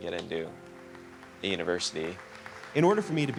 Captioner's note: audience applauding